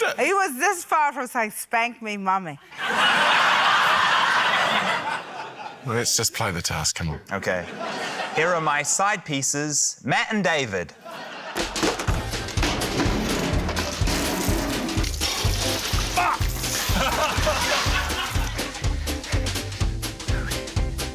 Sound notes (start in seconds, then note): 2.6 laughter; 11.8 wheelbarrow clunks, water runs loudly; 16.7 laughter